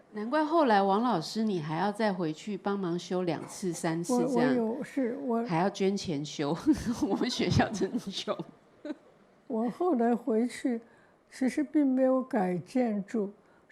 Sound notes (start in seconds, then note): 0.7 Mandarin; 6.6 laughter; 10.3 Mandarin